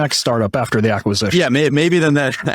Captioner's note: laughing